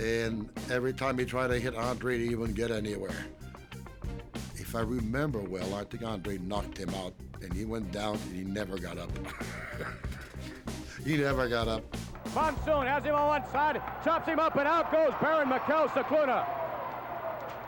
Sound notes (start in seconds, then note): 11.5 laugh